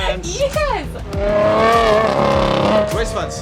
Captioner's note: car engine roaring